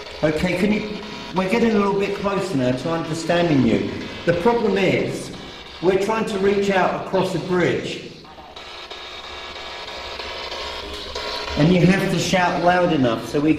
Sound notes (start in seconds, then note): 8.6 static buzzing